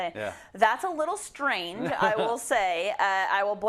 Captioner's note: laugh